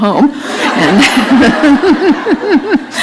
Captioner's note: laughter